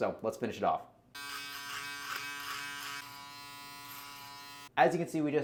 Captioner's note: shaver buzzes